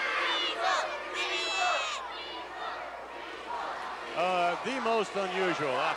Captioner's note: crowd chanting "weasel"